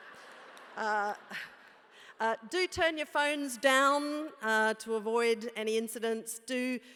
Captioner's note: laugh